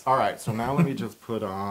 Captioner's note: laugh